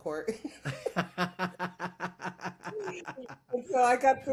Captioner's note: laughs